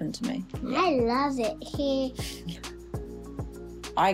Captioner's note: chuckles